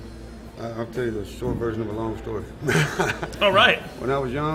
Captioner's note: laughing